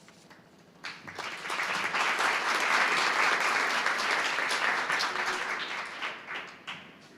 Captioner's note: applause